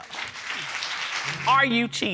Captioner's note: audience applauding